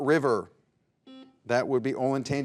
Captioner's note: buzzer buzzes